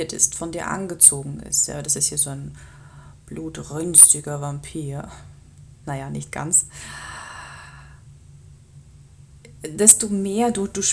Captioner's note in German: seufzt